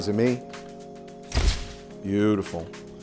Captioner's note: camera shutter clicking